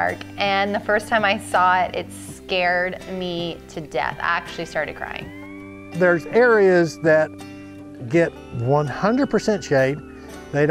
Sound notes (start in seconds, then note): none